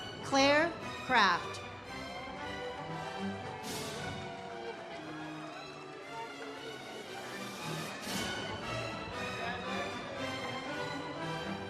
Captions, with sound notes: Claire Kraft. (audience cheers) (ceremonial music)